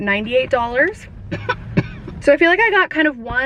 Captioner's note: coughs